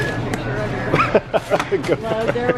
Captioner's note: laughs